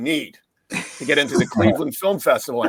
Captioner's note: laughing